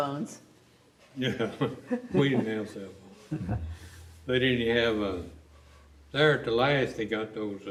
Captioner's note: laughs